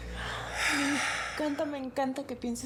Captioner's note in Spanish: suspiros